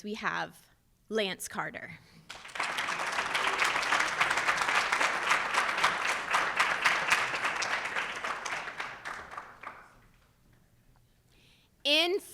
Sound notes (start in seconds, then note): 2.2 audience applauds